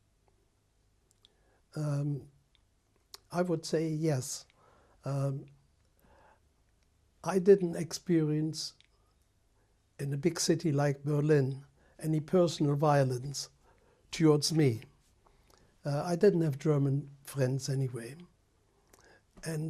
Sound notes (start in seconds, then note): 4.4 pauses for 3 seconds